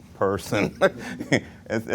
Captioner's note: laughs